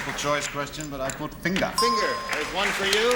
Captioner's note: ding